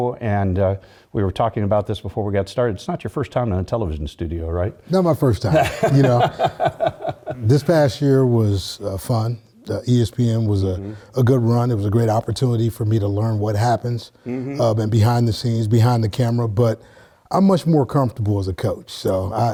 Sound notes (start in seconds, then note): 5.4 laugh